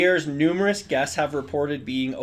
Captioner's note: speaking in foreign language